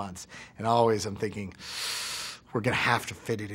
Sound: hisses

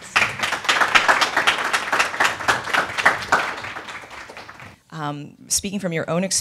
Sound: applause

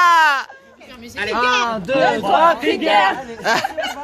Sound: war cry

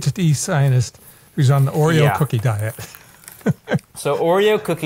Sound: laughs

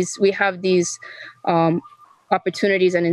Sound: speaking in foreign language

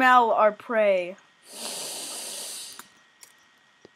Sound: long sniff

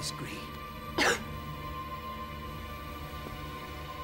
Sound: Charlotte coughs

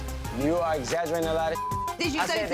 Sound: beep

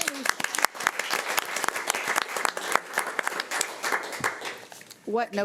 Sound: audience applauding

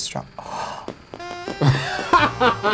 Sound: gasps; seductive music

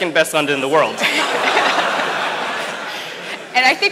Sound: audience laughs

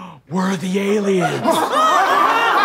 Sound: gasps; audience laughter; frantic gasps

